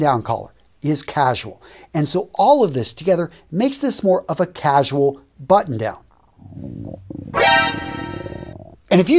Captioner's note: sound effect